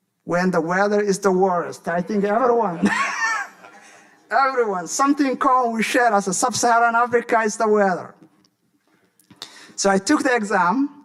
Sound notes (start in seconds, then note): 2.6 laughing